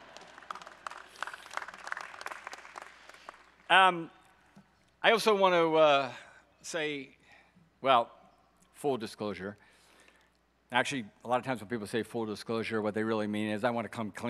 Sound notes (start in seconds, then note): 0.0 audience applauding